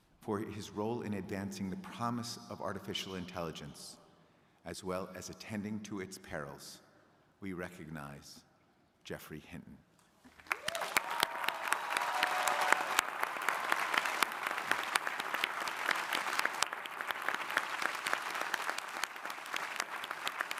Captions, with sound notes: For his role in advancing the promise of artificial intelligence, as well as attending to its perils, we recognize Geoffrey Hinton. (crowd applauding)